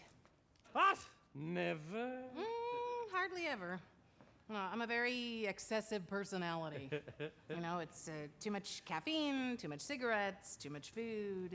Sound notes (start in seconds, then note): 6.7 chuckles